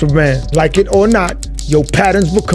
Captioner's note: typewriter clacks